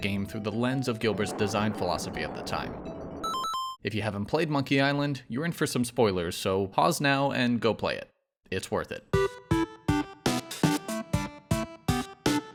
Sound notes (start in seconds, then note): 2.7 electronic chiming; 9.1 retro gaming music